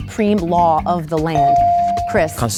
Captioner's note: bell dings